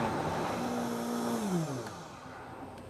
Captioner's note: blender blending